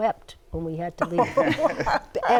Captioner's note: laughter